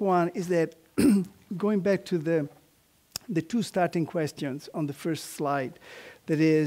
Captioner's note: cough